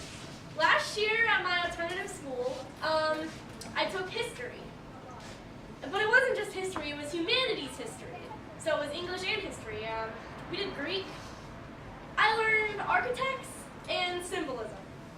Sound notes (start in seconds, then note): none